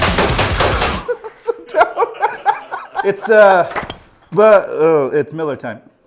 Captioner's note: laughs